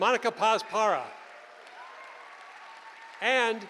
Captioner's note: cheering